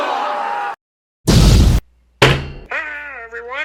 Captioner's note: human screaming because of monkeys attacking them; boom